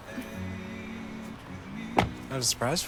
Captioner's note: door clicks shut